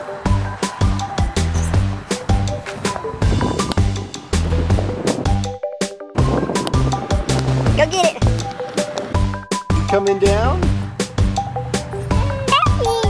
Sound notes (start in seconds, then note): 7.1 ball bounces; 12.1 baby cooing